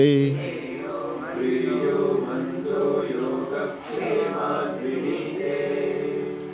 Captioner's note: chanting